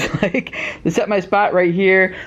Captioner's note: laughter